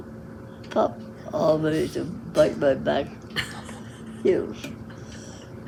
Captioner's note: laughs